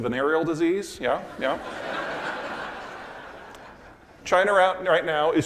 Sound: audience laughing

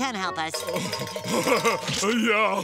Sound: chuckles

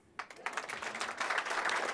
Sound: applause

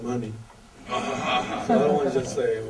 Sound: audience laughter

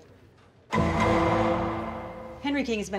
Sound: cell clanging

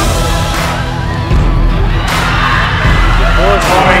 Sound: cheering

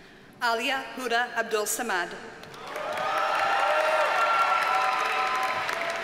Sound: audience cheers and applauds

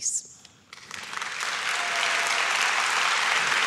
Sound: claps

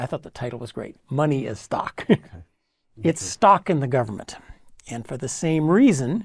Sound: laugh

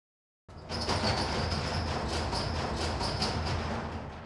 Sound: doors sliding

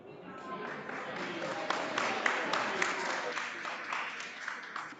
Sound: audience applauding

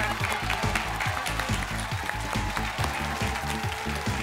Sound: cheers and applause

